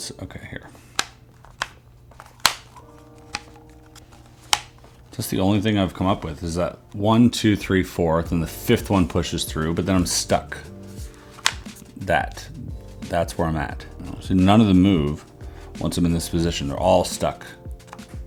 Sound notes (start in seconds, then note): 1.2 buttons clicking